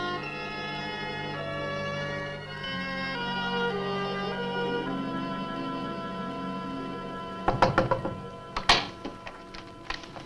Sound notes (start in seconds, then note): 7.5 knocks on door; 8.4 door opens